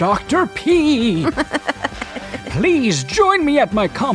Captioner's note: laughs